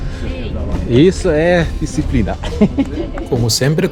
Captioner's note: laughs